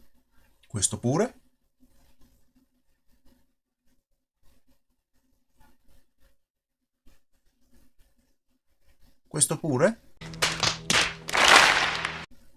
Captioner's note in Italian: Applauso